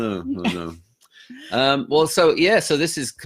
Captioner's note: laughing